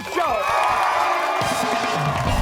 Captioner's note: cheers and applause